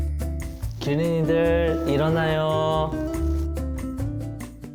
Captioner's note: live radio broadcast